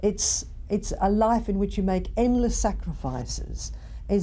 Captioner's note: none